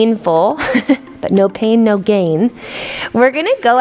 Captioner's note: chuckles